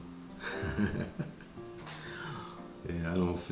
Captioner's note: laugh, laugh